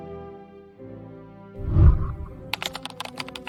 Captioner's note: whooshing sound; keyboard clicking